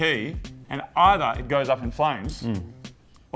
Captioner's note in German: mmm